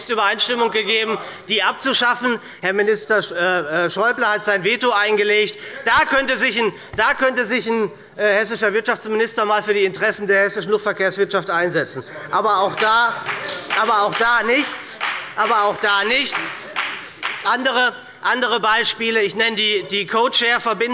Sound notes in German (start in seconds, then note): 14.1 Beifall bei der SPD